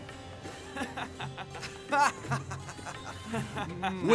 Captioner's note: laughs